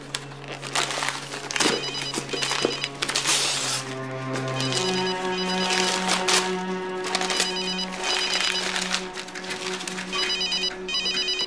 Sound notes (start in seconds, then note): 0.1 suspenseful music playing; 4.4 phone ringing